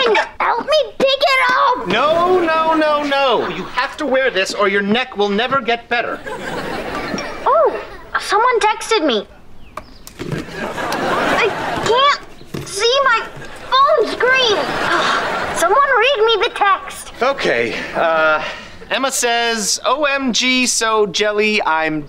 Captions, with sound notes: Help me take it off. No, no, no, no. You have to wear this or your neck will never get better. [chiming] Oh, someone texted me. I can't... see my... phone screen. Someone read me the text. Okay. Uh, Emma says OMG. So jelly, I'm dying.